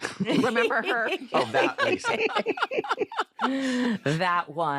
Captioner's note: laughter